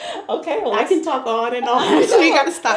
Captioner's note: laughter